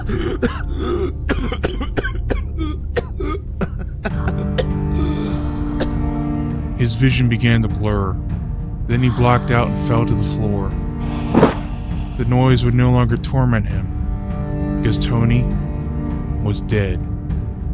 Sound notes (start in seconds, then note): 0.0 chocking, laughing; 4.1 chocking, wheezing; 11.3 thud